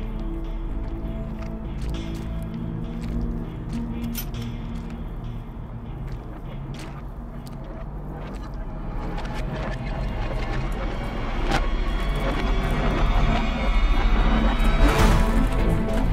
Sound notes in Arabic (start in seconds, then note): none